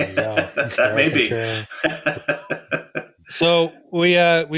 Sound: laughs

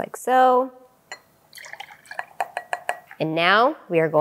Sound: vinegar splashes

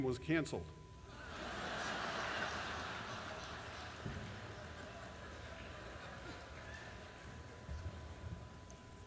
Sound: laughter

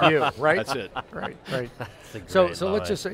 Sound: all laughing

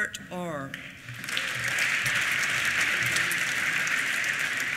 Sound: applause

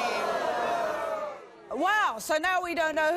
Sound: audience boos

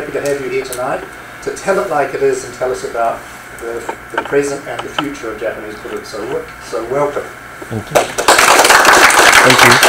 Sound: audience clapping

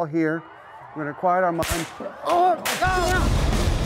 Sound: gunshots

